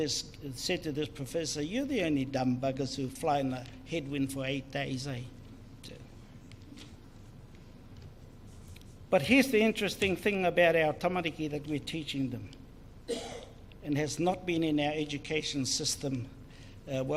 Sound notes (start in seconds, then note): 11.7 speaks in foreign language